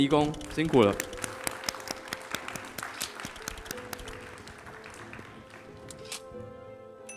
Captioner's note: applause